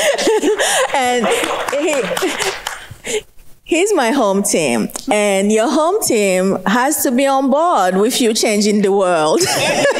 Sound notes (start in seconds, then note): 1.0 speakers and audience clapping; 9.4 laughs